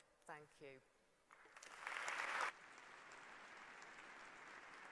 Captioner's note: applause